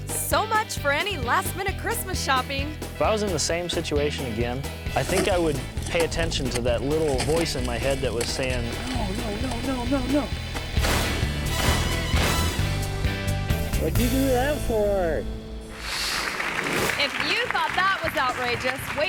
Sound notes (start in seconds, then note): 10.8 slab bangs; 15.7 audience applauds